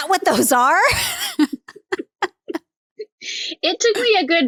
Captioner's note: laugh